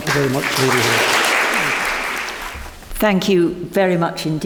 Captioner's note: members applaud